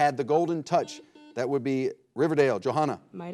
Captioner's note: buzzer blares